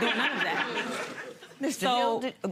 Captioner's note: audience laughing